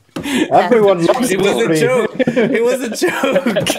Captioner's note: laughing